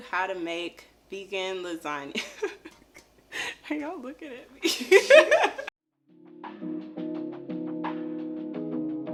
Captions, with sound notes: how to make vegan lasagna. (laughing) Are y'all looking at me? (laughing) (grooving music)